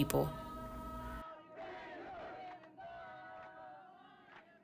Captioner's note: crowd chanting